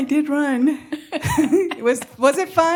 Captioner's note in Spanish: risas